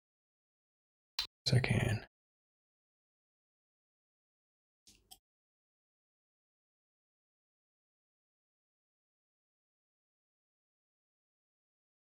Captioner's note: blank Audio; blank Audio